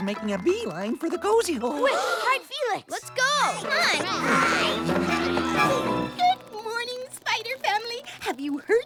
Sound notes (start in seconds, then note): 1.8 gasp; 3.5 croak